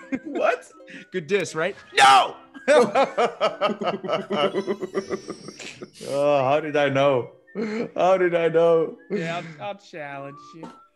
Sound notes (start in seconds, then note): 2.6 laugh